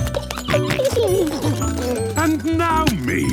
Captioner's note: giggling, snorting